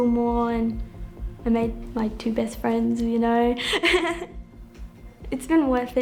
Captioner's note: chuckles